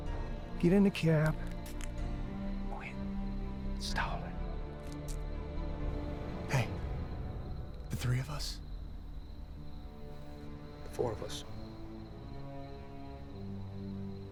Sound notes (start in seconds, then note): 2.3 whispers menacingly